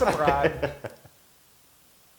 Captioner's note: laugh